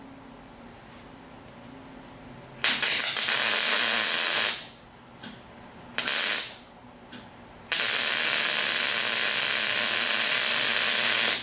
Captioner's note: welding